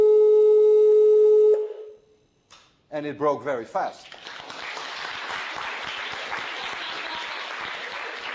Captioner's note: applause